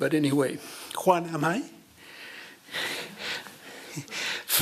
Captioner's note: non-english speech